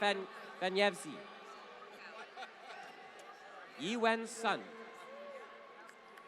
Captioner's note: laughter